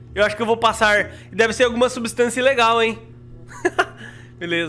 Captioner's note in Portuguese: risos